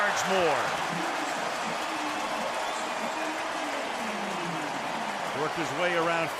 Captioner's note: cheering